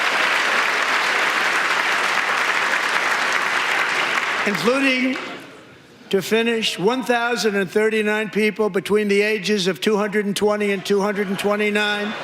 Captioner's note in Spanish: aplausos